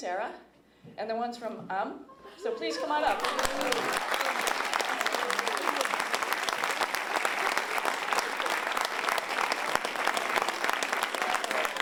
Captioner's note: applause